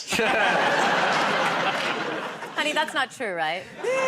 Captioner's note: laughter